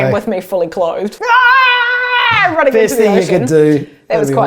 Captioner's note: both laughing